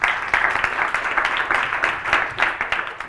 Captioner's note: applause